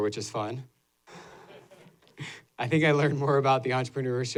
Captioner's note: laughter